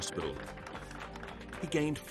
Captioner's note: people applauding